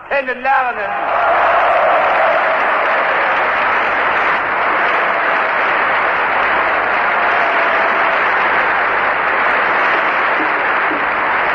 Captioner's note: applause